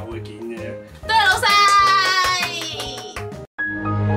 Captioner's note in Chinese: 拍手~